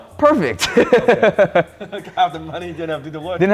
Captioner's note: laughing